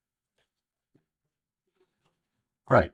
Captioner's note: silence